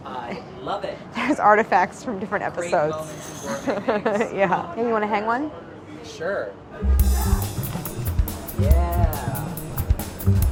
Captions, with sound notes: - I love it! - [laughing] There's artifacts from different episodes. - Greg Bowmans and Gourmet Makes. - [laughs] Yeah. Hey you wanna hang one? - Sure. [upbeat percussion music] Yeah!